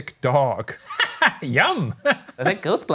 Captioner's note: laughing